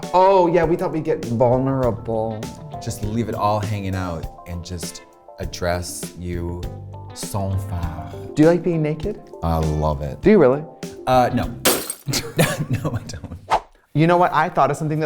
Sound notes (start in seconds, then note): 11.6 glass breaks; 12.1 laughing